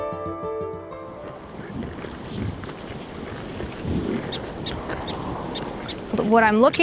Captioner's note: bison eating